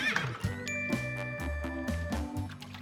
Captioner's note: horse whinnies